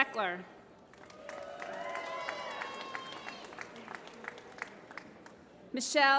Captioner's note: applause